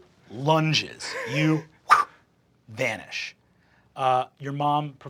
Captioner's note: whooshing